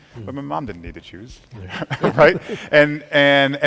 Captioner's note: chuckles